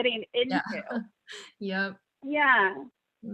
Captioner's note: laughs